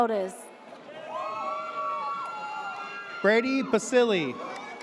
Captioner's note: audience cheers